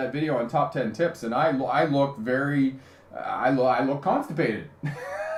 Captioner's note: laughing